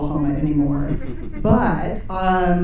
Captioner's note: audience chuckling